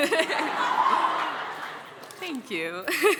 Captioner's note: laughter